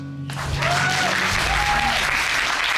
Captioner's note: audience cheers and applauds